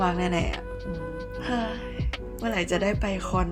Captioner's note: audible sigh